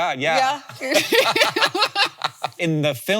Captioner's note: both laughing